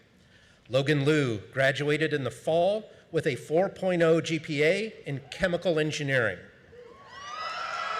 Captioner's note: screaming